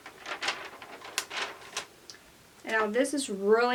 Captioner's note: paper rustles